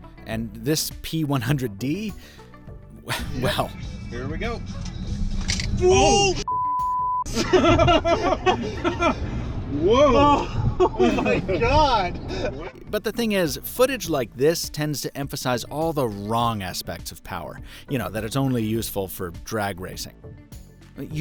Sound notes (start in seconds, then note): 6.4 beep; 7.3 laughs